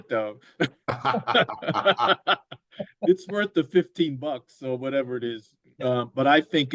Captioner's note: laughter